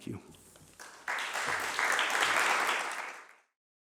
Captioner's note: applause